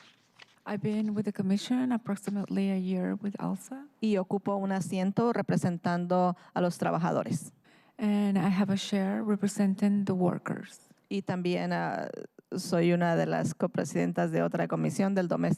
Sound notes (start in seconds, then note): 2.1 speaking in spanish; 11.0 speaking in spanish